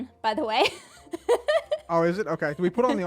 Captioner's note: laughs